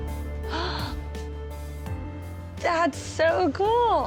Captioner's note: gasps